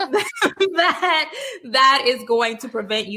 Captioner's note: Jameela laughing